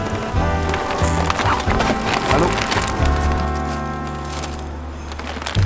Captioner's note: car trunk pops; plastic bags rustling